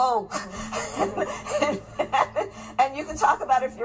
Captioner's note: laughing